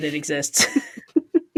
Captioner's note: laughs